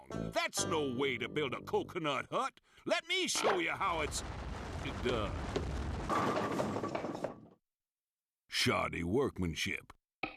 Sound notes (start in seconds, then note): none